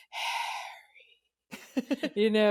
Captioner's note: whispers Harry